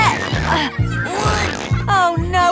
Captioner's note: grunting